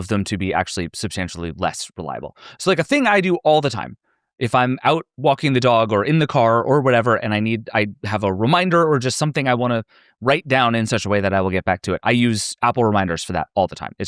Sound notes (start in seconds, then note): none